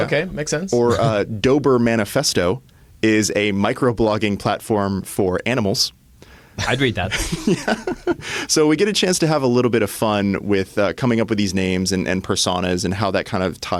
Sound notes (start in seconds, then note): 6.7 laughs